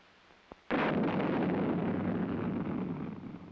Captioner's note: rocket thrusters ignite